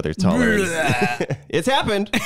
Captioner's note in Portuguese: som de vômito